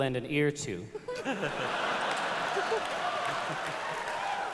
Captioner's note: laughter